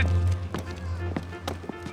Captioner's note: speaking Mandarin